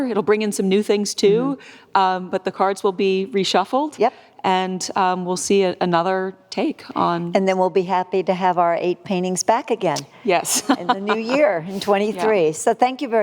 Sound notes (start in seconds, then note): 10.5 laughs